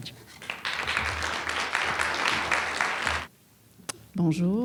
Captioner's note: applause